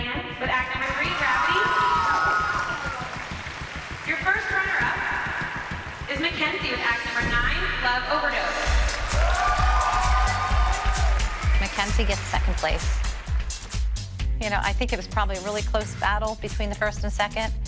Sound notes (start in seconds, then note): 2.8 cheering; 10.8 cheering